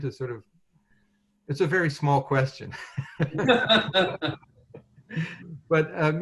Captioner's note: laughter